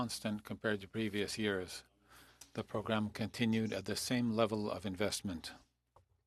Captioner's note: speaking French